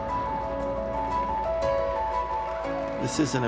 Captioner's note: clapping